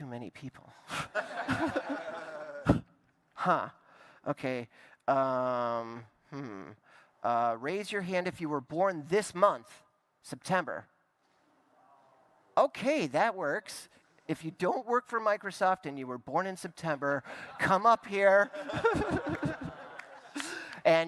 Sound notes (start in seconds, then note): 18.4 laughter